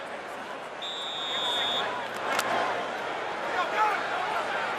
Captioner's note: whistle